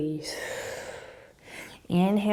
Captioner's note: exhaling